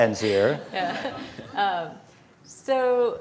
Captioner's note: laughter